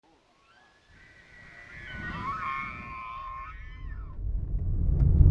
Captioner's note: elk bugling